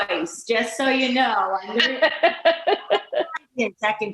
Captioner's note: laughing